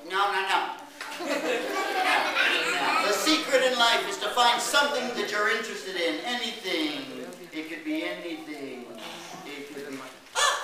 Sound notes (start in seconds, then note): 6.1 Maldo speaks in Spanish